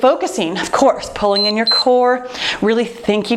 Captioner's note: timer beeps